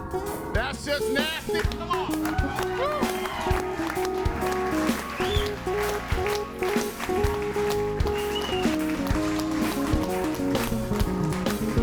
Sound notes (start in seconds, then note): 3.0 audience cheering and applauding; 6.1 calm music